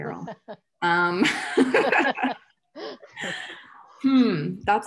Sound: laughs

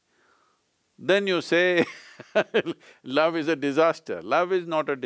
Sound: laughs

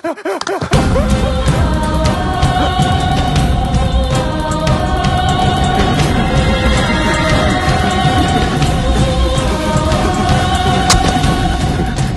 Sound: people screaming

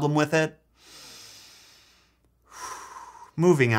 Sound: deeply sighs

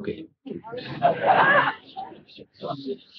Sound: laughter

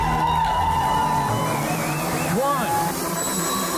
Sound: crowd cheering; high pitch noise

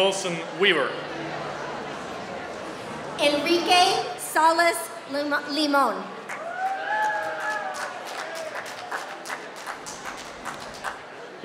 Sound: applause

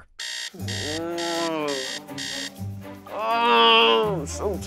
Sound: groans

